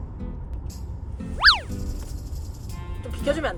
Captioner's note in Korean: 스윽